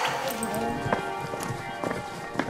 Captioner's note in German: Glockengeläut